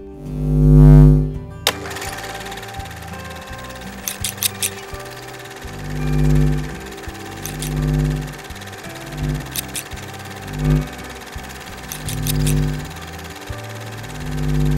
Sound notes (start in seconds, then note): 0.3 light hums; 1.7 camera reel flutters; 4.0 scissors clip; 5.3 light hums; 7.4 scissors clip; 8.9 light hums; 9.4 scissors clip; 10.6 light hums; 12.0 scissors clip